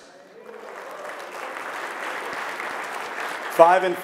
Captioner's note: audience clapping